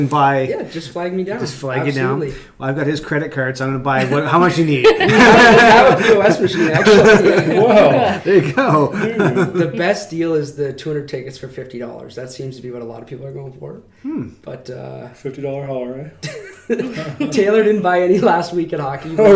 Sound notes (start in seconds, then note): 4.0 laughing